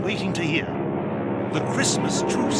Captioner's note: plane noises